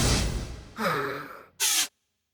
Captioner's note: sighs